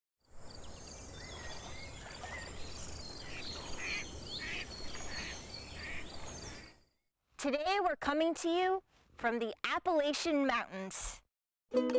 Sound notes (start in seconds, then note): 0.4 birds chirping; 4.3 ducks quacking